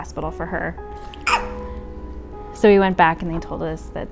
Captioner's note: baby coughs